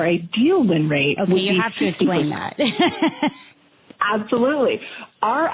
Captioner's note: laughter